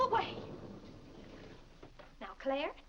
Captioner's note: doors sliding open